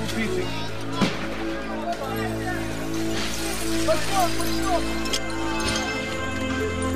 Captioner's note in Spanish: cristales rotos, gritos